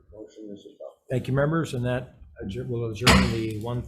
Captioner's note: gavel bangs